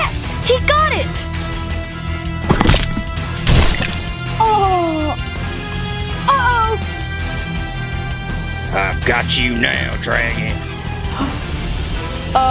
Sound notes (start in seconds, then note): 3.4 loud crunch; 7.1 dramatic music; 11.0 gasps softly